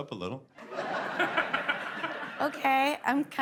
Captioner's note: laughing